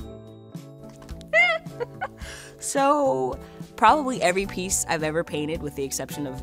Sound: laughs

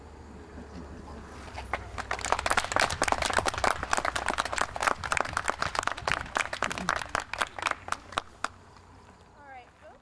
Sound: applause

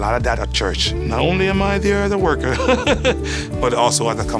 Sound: laugh

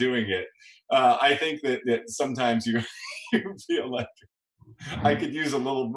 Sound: laughs

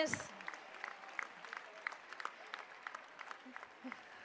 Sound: applause

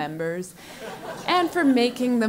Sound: laugh

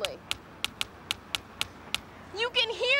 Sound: rhythmic tapping

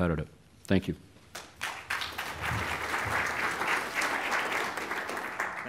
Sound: applause

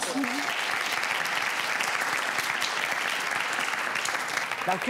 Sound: audience applauds

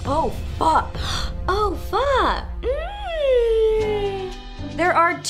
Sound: gasp

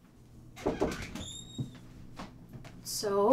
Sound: door knock

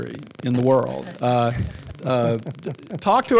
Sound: panel laughing

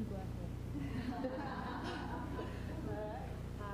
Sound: laughter

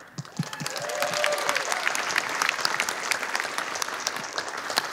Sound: audience applauding

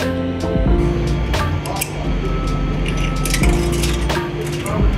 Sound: coin clanking

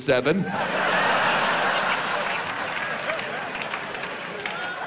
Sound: audience laughs

